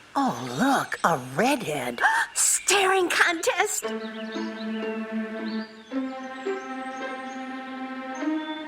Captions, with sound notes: Oh look, a redhead. [gasp] Staring contest! [mysterious music]